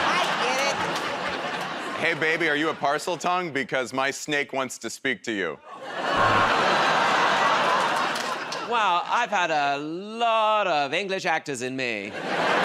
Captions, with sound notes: -I get it. -Hey, baby, are you a parseltongue? Because my snake wants to speak to you. [ Audience groans ] -Well, I've had a lot of English actors in me.